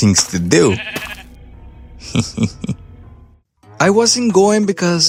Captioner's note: sheep noises